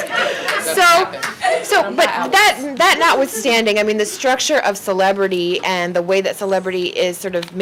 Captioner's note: laughing